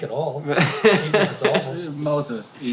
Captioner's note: laughing